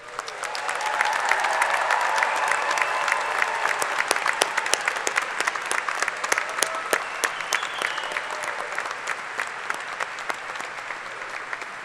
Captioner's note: cheers and applause